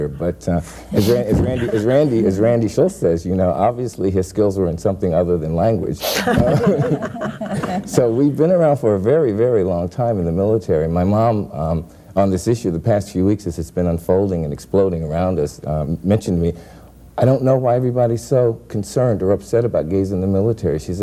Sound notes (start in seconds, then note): 6.1 all laughing